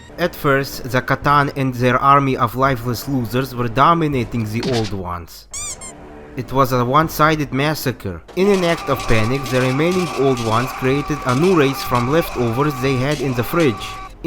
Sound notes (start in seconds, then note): 5.5 squeak